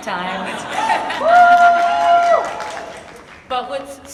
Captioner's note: audience laughs and cheers